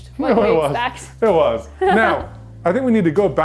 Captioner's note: laughing